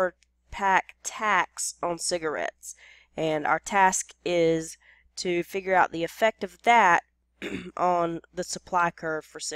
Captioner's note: cough